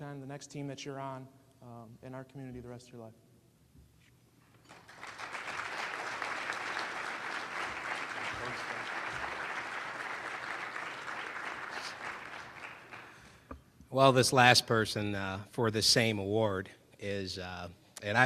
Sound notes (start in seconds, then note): 4.6 applause